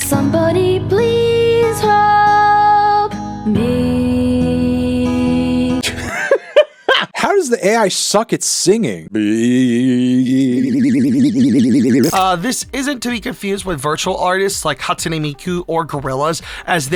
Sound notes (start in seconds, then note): 6.9 laughing; 10.4 imitating music